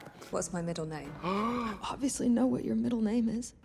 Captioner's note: Trixie gasps